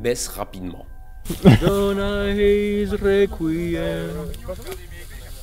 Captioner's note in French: chantonne